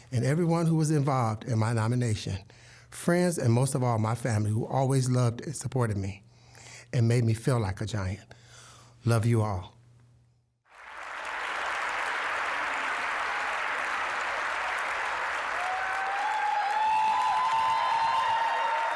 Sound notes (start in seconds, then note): 10.7 applause; 15.7 applause, cheering